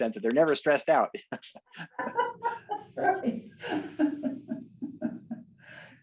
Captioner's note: laughter